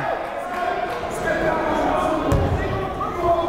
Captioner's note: yelling